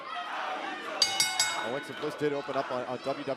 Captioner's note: bell ringing